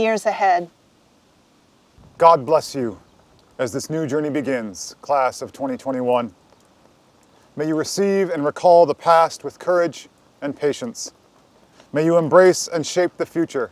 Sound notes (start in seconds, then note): none